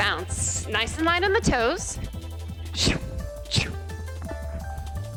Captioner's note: sound effect